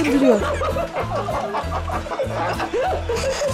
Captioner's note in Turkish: Gülme sesleri